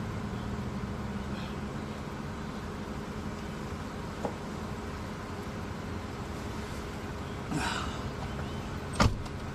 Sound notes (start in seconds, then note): 7.5 deep sigh